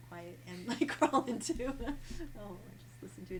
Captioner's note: laughs